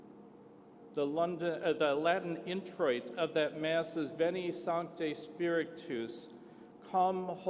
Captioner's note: foreign language spoken